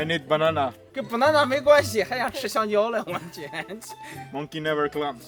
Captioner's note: he laughs at me